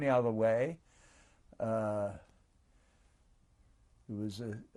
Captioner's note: pauses for 3 seconds